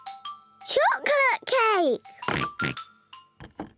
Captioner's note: oinks